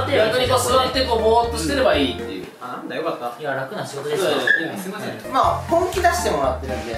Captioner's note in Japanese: none